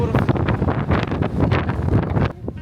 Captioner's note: strong wind that makes breathing difficult